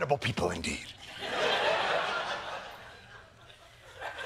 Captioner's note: laughter